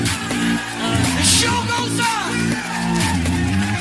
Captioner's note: Aplauze